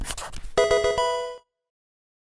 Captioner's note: marker scratching; Pokemon game sound